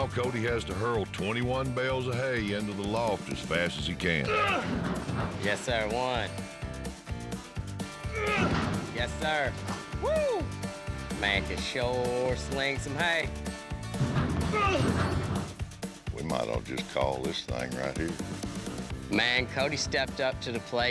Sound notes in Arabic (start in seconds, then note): 3.4 يصدر أصواتًا غاضبة; 8.1 غمغمة